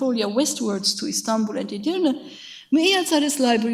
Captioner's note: speaks a foreign language